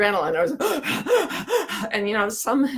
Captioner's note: panting heavily